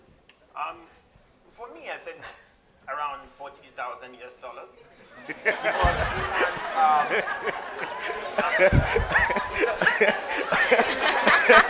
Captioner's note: laughing